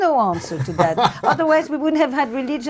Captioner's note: laughs